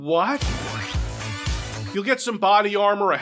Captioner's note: vulgar sound effect